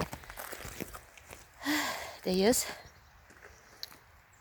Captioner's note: sighs